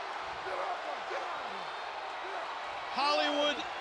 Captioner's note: crowd cheering